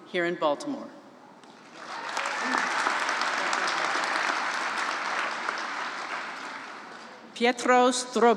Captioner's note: applause